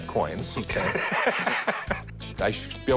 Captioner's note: laughs